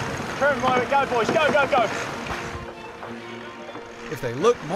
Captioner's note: sailors yelling